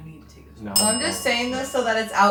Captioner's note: bell dings